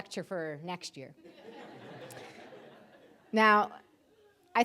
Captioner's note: audience laughing